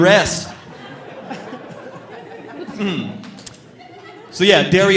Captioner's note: audience laughing